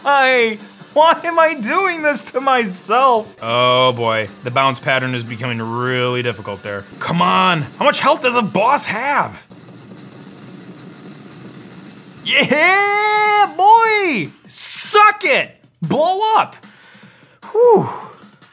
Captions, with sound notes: Why am I doing this to myself? Oh boy, the bounce pattern is becoming really difficult there. C'mon, how much health does a boss have? (shots firing) Yeah, boy! Suck it, blow up! Whoo.